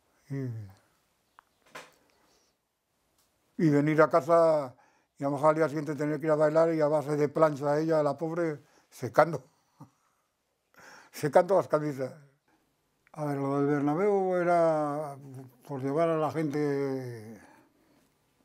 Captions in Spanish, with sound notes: Y venir a casa, y a lo mejor al día siguiente tenía que ir a bailar, y a base de plancha, ella, la pobre, [ríe] secando las camisas. A ver, lo del Bernabéu era por llevar a la gente...